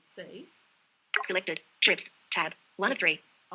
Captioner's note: VoiceOver announcing content